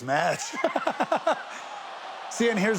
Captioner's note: Steve laughs